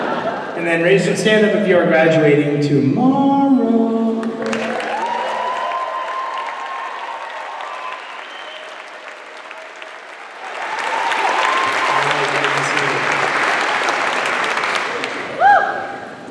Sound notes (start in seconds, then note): 0.0 laughter; 4.5 cheering